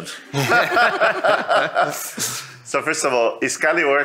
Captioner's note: all laugh